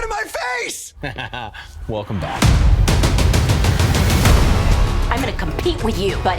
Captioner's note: laughs